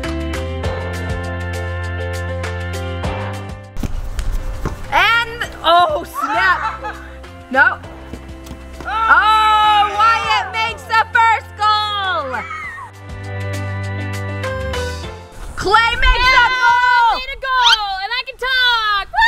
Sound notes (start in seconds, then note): 6.2 laughter; 12.2 children screaming